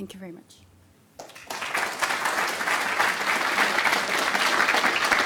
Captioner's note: applause